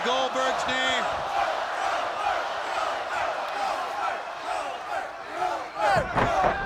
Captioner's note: audience in unison